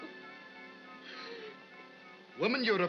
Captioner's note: sobbing